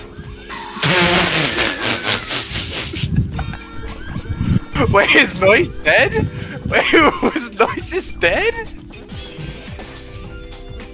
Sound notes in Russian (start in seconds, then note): 6.4 еле сдерживает смех